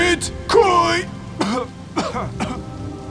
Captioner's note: cough